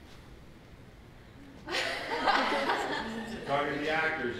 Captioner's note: laughter